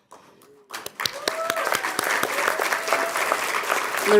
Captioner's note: clapping